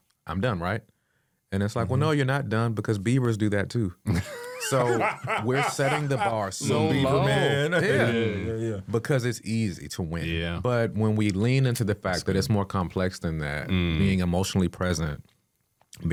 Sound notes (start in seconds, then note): 4.1 laughing